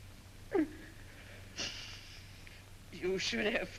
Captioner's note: Vincent sobs